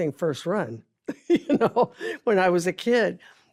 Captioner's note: laughs